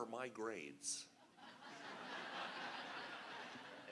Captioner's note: laughter